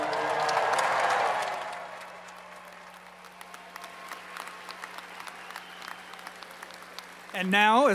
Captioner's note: applause